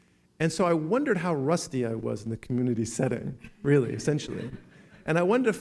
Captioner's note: laughing